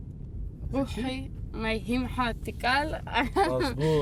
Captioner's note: speaking foreign language